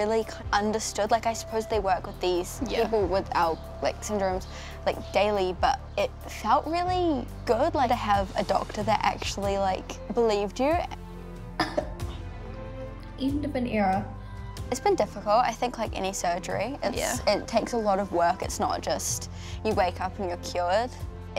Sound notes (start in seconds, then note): 11.6 coughs softly